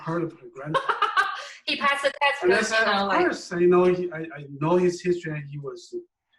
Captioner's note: laugh